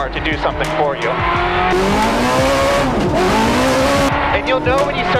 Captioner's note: car engine revving